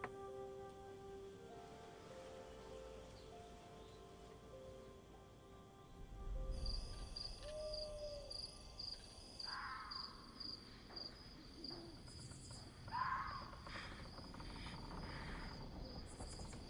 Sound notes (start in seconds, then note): 7.1 crickets chirping; 10.2 various animal noises; 14.8 creaking noise